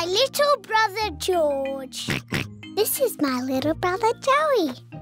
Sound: oinks

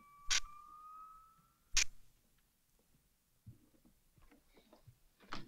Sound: light clicking

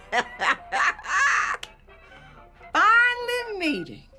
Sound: Mrs. Webb laughs

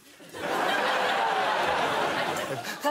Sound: audience laughs

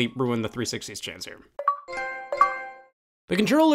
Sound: Xbox and PlayStation sounds

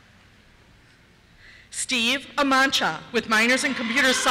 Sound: cheers

